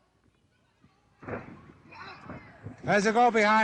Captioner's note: feet tapped of ring floor